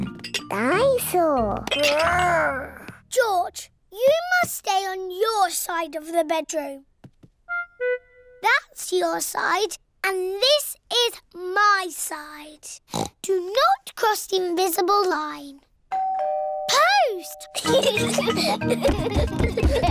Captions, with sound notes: Dine-saur. Grr! George, you must stay on your side of the bedroom. That's your side and this is my side. (OINKS) Do not cross the invisible line. -(DOORBELL RINGS) -Post! (BOTH GIGGLING)